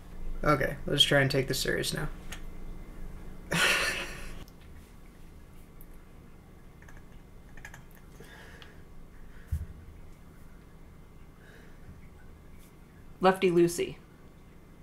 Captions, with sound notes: Okay, let's try and take this serious now. (laughs) Lefty loosey.